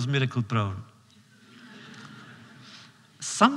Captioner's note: laughter